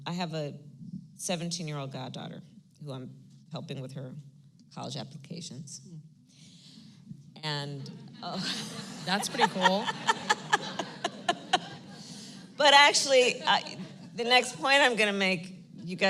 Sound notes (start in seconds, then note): 8.3 laughter; 12.0 laughs